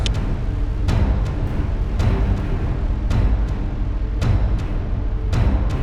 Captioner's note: thunder storm